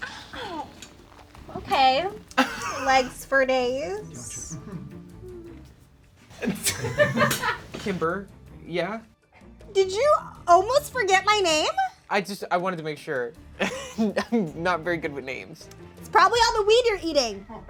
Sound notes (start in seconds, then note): 6.4 laughs; 13.6 laughs